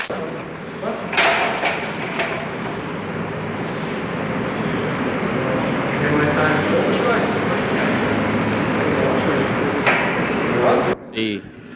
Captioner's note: construction noises and inaudible dialogue